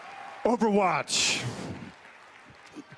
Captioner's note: Blizzcon cheering